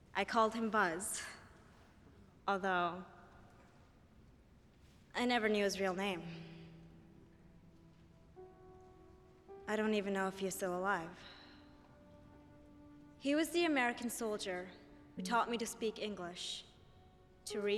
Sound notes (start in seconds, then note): none